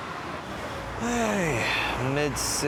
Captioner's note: sighs